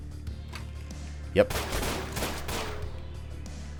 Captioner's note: gunfight ensues